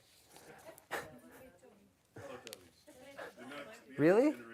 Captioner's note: audience murmurs